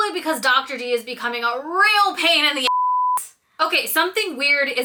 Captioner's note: beep